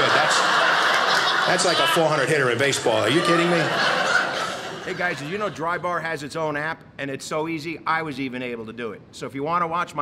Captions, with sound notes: That's like a 400 hitter in baseball. Are you kidding me? (audience laughing)